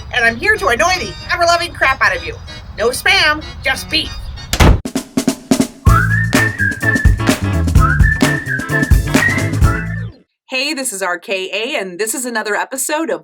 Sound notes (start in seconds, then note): 4.5 door slams; 4.6 snare drum beats; 5.8 fun whistling music; 5.8 upbeat claps music